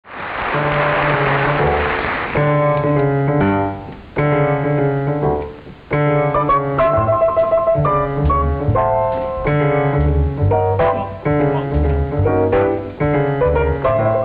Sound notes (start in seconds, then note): 0.0 audience applauding